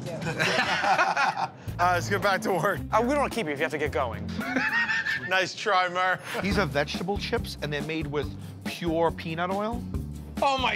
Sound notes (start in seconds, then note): 0.2 laughter; 4.3 laughs